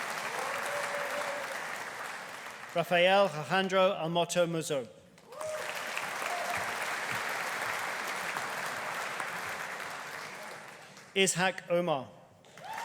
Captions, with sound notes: Rafael Alejandro Alomoto Muzo. (AUDIENCE APPLAUDING) Is-Haaq Omar.